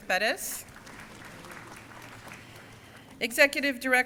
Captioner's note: crowd cheering